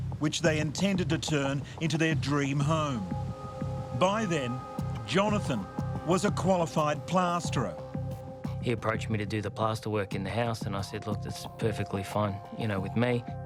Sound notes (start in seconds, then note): 3.0 wind gushing